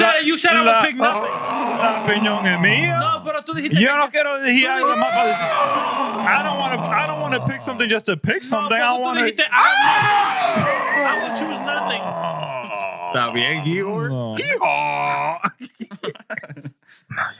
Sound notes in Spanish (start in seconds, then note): 1.0 Jadeando; 12.2 Gritos; 12.2 Risas